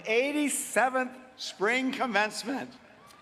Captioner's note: applause